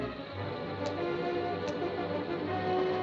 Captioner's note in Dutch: klikken